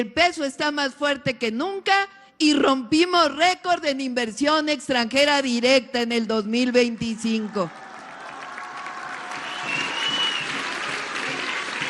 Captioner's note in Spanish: aplausos